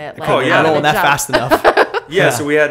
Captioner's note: laughter